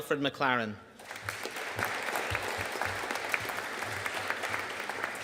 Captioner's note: audience applauding